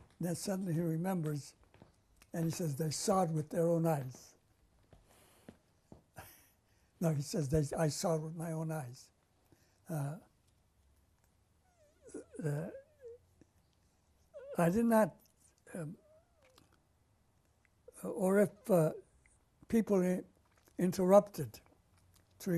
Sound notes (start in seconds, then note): 6.2 laughs; 9.1 pauses for 6 seconds; 15.1 pauses for 3 seconds